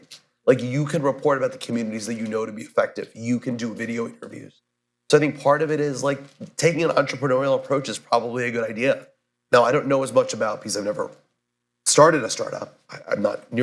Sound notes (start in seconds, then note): none